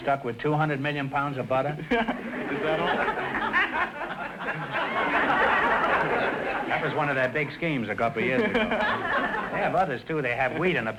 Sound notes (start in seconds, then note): 1.8 laughing; 3.4 audience laughter